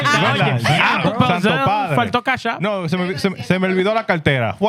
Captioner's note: speaking Spanish